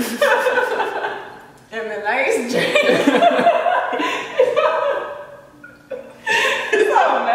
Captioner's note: laughing; laughing